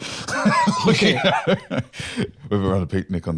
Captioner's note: laughs